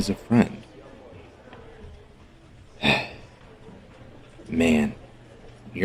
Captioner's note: irritated sigh